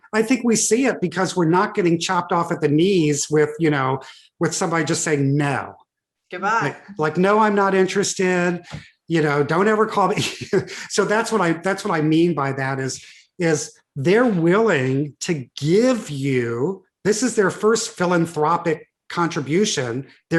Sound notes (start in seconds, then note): 10.1 chuckles